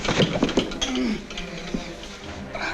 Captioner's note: wilson groaning